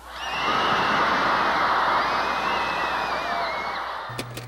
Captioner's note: crowd cheering